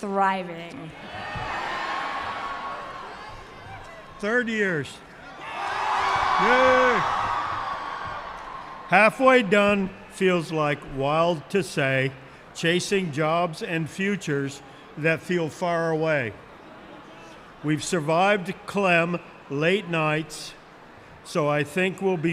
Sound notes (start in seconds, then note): 9.0 cheers